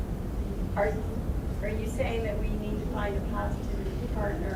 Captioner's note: voiceover